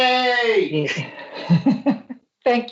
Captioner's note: laughter